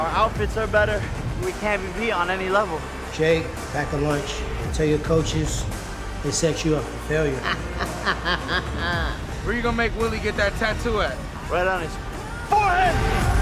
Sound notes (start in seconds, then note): 9.5 laughs